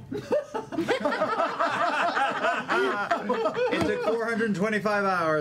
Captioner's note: laughter